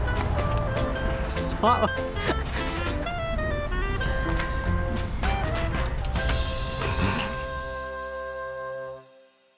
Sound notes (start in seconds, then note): 1.5 laughing